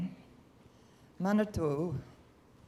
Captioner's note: non-english speech